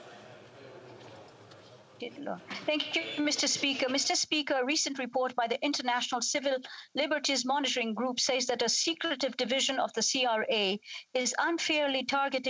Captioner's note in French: voix de l'interprète